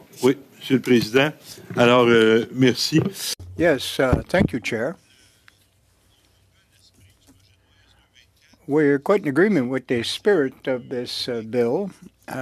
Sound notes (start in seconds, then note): 6.6 speaking French